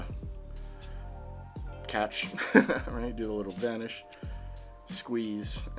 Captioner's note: laughs